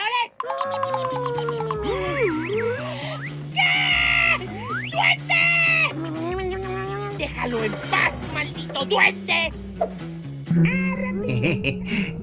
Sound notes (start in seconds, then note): 0.4 Duende noises; 2.1 Turbo inhale; 4.3 mini inhale; 10.5 cartoon jibberish